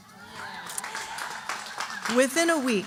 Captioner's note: audience applauding